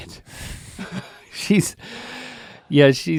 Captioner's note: both laughing